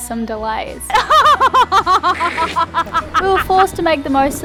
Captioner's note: laughing